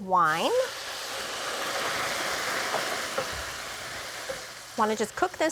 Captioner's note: sizzling